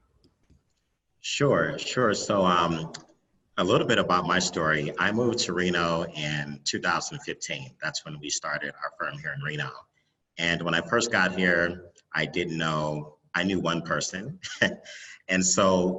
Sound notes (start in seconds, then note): 14.4 laughs